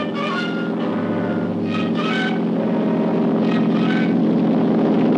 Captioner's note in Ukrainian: гурчання гелікоптера